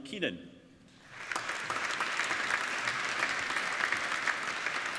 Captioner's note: applauding